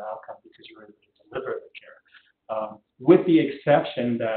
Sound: audio drop

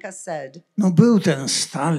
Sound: foreign language

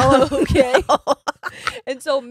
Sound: laughs

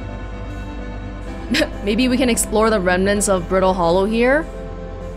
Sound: snicker

